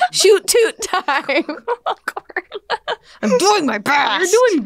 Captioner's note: laughing